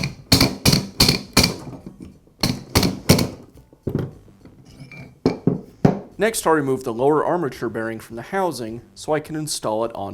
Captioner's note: hammering